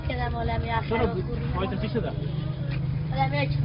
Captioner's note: soldier speaks in foreign language